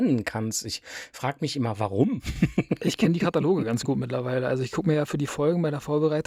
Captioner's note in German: gelächter